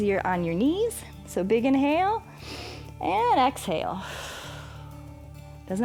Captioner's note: exhales; inhales